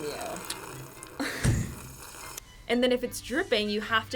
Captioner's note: slurps